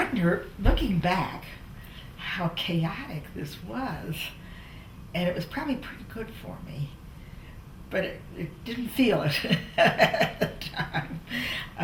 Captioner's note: laughter